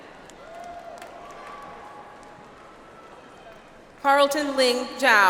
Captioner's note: audience applauds